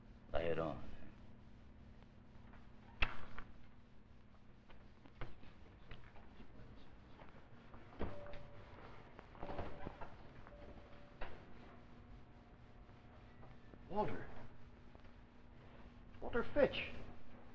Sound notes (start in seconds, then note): 5.1 dinging sound